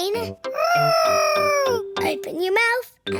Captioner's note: imitating aeroplane